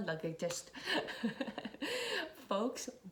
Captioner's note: laughs